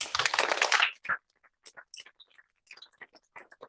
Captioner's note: applause